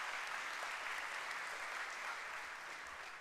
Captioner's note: applause